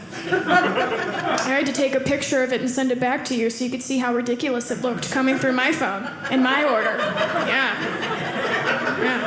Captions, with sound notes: (audience laughing) I had to take a picture of it, and send it back to you, so you can see how ridiculous it looked coming through my phone (audience laughing) yeah. (audience laughing)